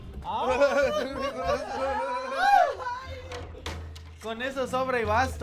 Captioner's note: risas